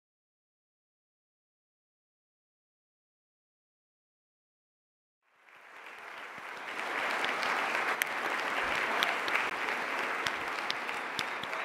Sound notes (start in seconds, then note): 5.3 audience applauding